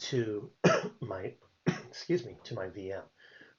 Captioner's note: coughs